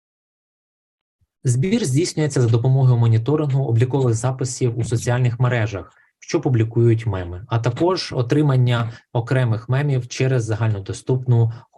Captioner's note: foreign Language Spoken